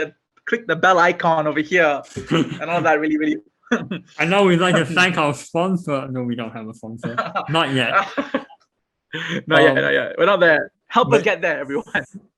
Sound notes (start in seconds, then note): 7.0 laughs